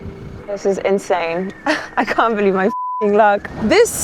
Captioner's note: beep